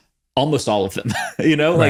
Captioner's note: laughs